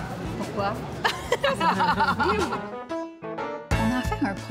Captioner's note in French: rires